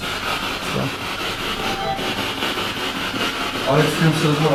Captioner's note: device beeps again